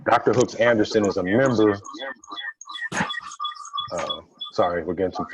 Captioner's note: feedback resounds